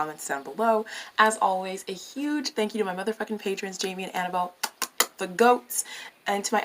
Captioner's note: mwah